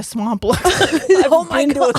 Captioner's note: both laughing